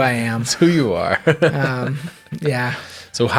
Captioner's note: interviewer chuckles